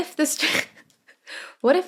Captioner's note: cracks up